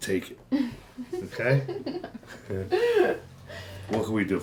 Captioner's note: riendo; risitas